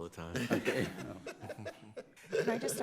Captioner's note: laughing